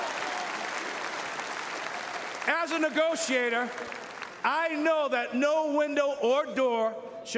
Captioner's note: cheering and Applause